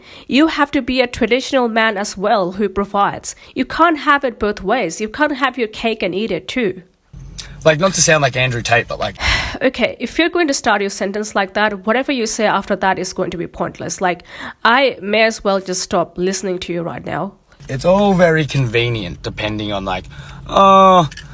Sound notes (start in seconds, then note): 9.2 sighs